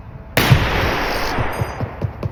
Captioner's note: gunshot